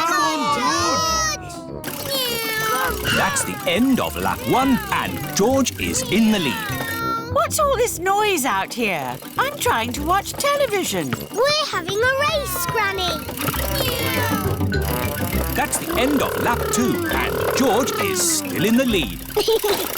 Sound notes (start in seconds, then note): 13.9 kids imitating vehicle sounds; 19.8 chuckles